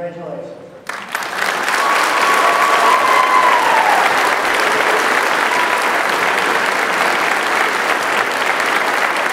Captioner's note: applause